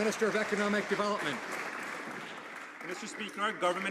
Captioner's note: some Applause